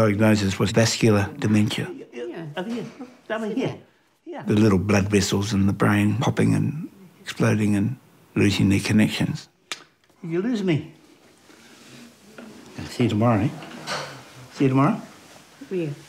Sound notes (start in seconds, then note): 9.7 kisses